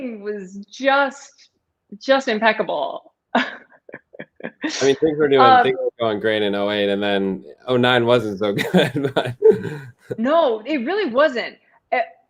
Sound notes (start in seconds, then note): 3.3 laughter; 8.5 laughter